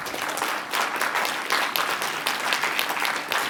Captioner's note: applause